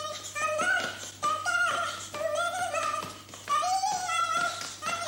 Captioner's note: humming